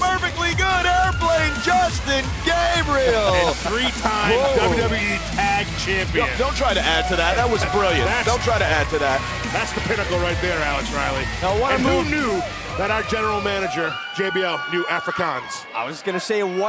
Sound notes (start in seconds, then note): 3.3 laughter